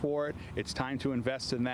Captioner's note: construction noise